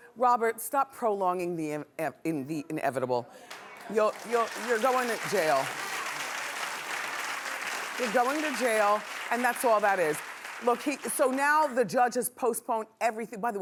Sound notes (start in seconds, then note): 6.8 clapping